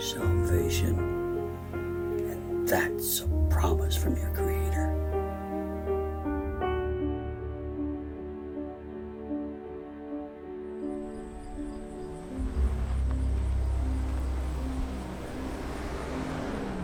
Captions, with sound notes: And that's a promise from your Creator. (poignant music continues to play) (car engine roaring)